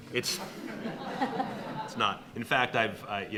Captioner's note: audience laughing